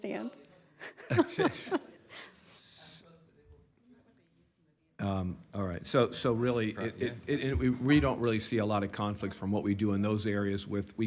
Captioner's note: laughter